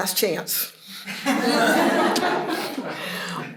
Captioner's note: laughter